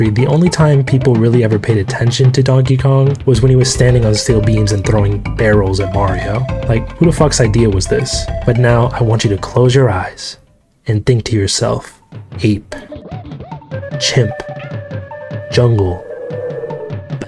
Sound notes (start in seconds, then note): 12.6 Donkey Kong war cry; 12.9 Diddy Kong noise; 16.0 wind whirring